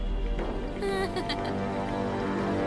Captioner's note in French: rire moqueur